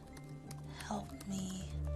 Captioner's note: typing